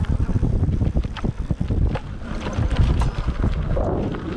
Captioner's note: bike engine roaring